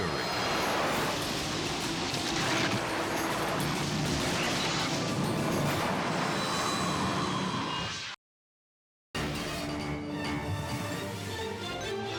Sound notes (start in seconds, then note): 1.2 torrent rumbling; 3.1 crash thundering; 9.2 dramatic music